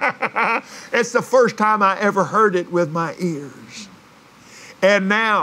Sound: laughs

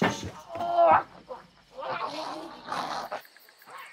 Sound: shushing; boy growling; distant growling

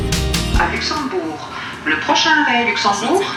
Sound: french announcement

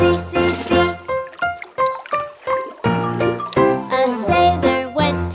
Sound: water burbles; bright music

